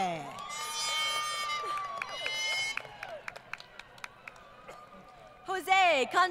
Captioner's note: crowd Cheering